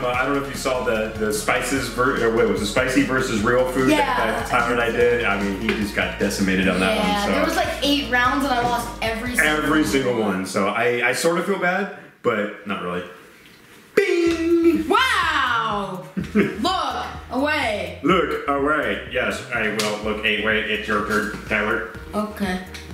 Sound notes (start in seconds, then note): 17.2 robot voice